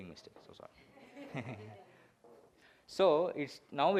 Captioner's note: audience laughs